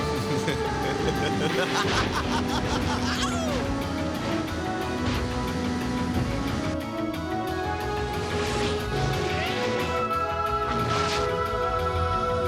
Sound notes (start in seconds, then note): 0.0 chuckling; 2.9 exclaims